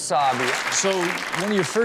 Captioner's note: audience clapping